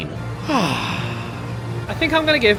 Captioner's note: sighs contentedly